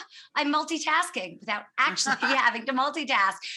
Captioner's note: laughs